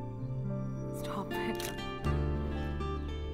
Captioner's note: Clicks